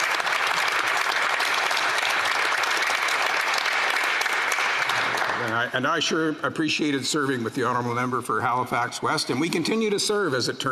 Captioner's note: some Applause